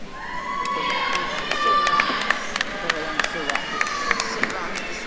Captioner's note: attendees cheering